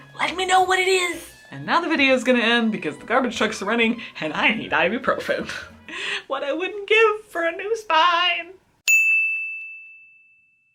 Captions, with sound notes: let me know what it is! And now the video's gonna end because the garbage trucks are running, and I need ibuprofin! What I wouldn't give for a new spine! [ding]